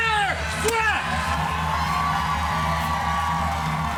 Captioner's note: cheers and applause